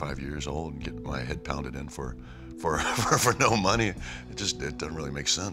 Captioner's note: laugh